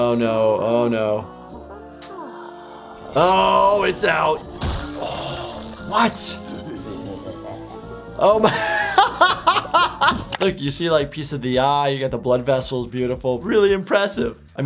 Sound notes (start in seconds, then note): 1.5 Flippy moaning; 4.3 gasps; 6.6 Fliqpy laughing evilly; 9.3 laughs